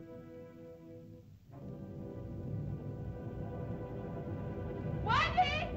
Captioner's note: whimsical music; ominous music; volcano rumbles